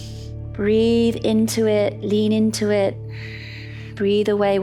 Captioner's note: inhales; calm music; exhales